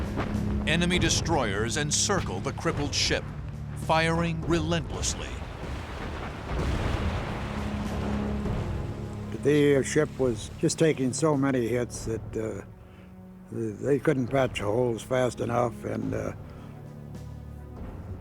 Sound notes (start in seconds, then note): 5.2 explosions